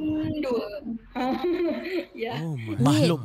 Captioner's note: laughing